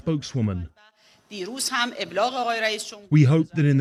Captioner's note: foreign language